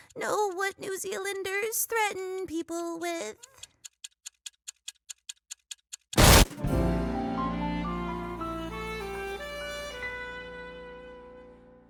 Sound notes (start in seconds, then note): 3.4 bomb ticking; 6.5 mellow jazz music plays